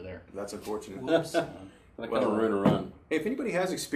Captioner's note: laughs